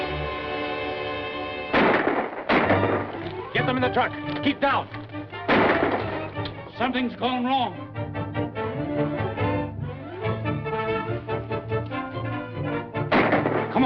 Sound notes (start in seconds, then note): 1.7 gunshots; 5.4 gunshot; 13.1 gunshot